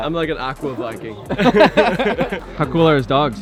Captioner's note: laughing